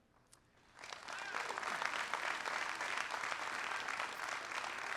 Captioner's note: audience applauding